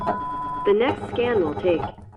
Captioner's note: loud beep